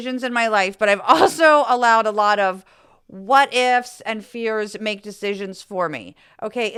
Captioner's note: laugh